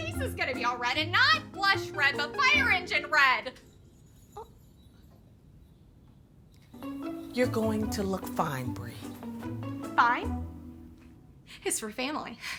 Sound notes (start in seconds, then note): none